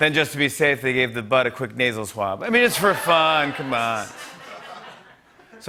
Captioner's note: laughter